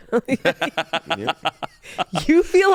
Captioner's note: laughing